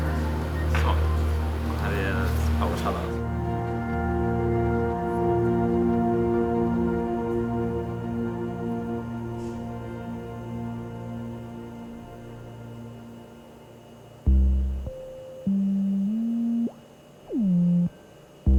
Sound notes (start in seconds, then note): 1.8 speaks in Swedish; 4.5 gentle music continues; 14.2 experimental music